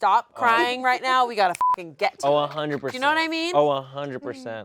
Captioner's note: beeps